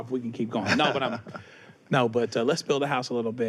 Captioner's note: laughs